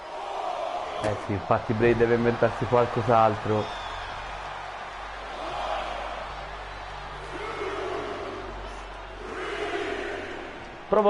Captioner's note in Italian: Applauso